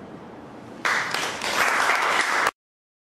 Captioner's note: audience applauds